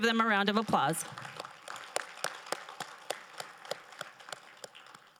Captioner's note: crowd applauding